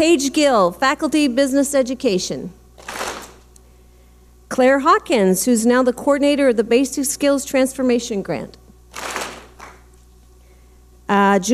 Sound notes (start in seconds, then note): 2.8 clap smack; 8.9 clap smack